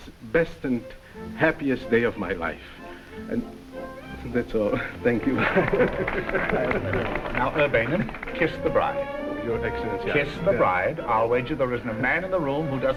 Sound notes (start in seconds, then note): 6.5 crowd clapping